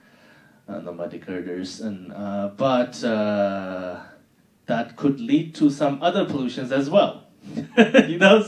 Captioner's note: laughing